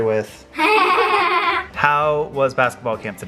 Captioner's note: laughs